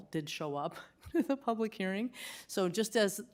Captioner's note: laughter